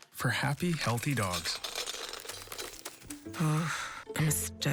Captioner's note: dog food pouring